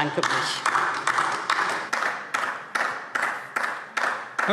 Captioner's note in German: Beifall DIE LINKE